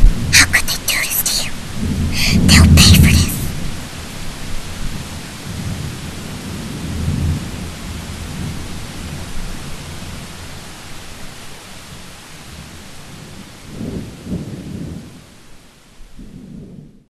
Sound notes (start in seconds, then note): 12.6 the raining sound dies down as screen fades to black